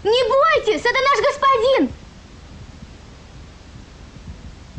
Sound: foreign language

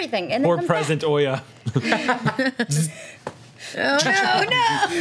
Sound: group laughs; group laughs

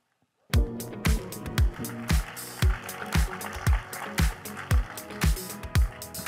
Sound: upbeat music; audience applauding

